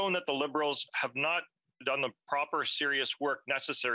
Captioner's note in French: voix de l'interprète